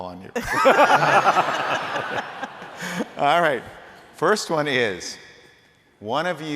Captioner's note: laughter